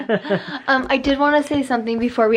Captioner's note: laughs